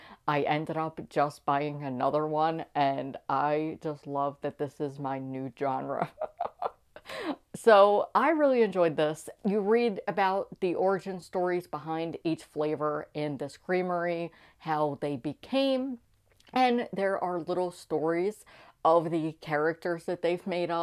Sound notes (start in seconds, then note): 6.0 laughing